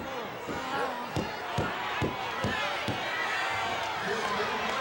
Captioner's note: hand tapping